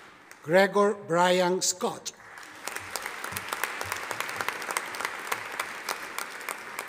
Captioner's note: audience applauding